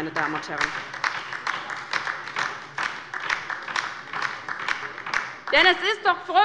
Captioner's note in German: Beifall bei der LINKEN